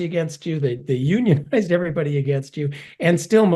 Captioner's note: laugh